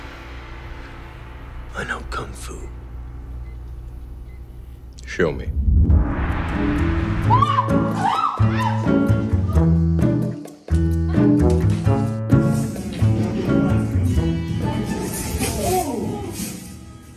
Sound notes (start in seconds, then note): 7.2 scream